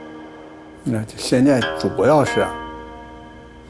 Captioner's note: speaking Chinese: English translation on screen